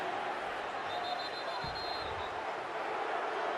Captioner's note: whistle blowing